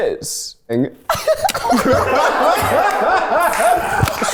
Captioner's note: everyone laughs